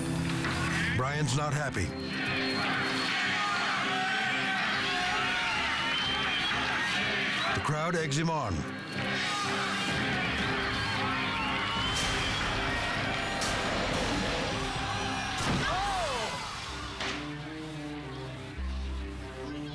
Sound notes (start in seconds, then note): 2.0 crowd; 15.9 crowd; 16.8 slow music